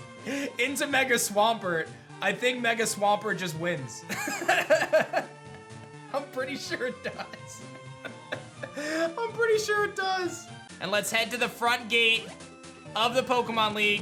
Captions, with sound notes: into Mega Swampert, I think Mega Swampert just wins. (laughs) I'm pretty sure it does. (laughs) I'm pretty sure it does. And let's head to the front gate of the Pokemon League.